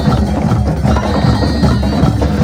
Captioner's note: none